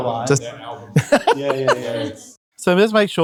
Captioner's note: laughing